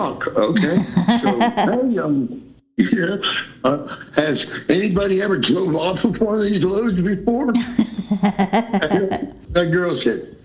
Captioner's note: laughter